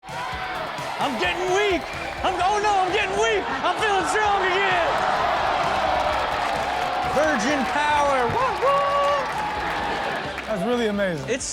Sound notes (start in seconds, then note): 0.1 crowd cheering; 5.0 audience exclaiming and applauding; 9.3 crowd cheering